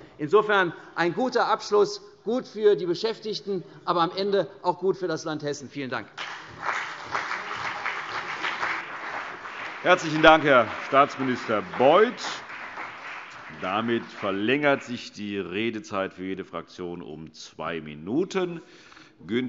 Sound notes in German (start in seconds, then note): 7.1 Beifall CDU und BÜNDNIS 90/DIE GRÜNEN